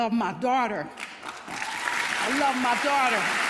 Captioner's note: audience applauding